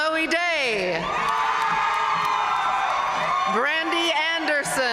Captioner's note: audience cheering and applauding